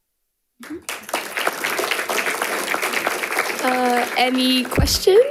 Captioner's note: audience applauding